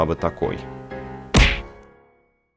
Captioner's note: bump